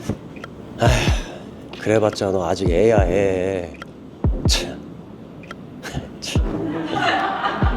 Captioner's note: sigh